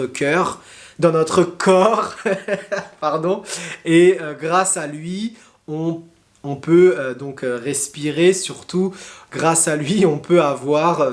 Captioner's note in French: rires